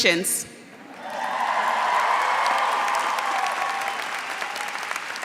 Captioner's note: applause